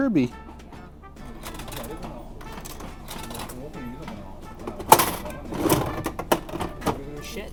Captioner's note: machine rattling